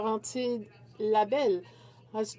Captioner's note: speaking French